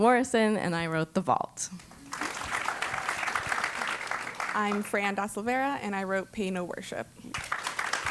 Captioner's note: applause